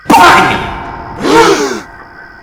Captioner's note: everyone gasps